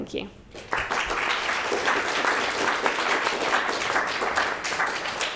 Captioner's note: audience applauding